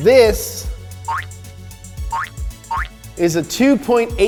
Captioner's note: eye wink noises